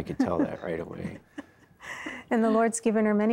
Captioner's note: giggling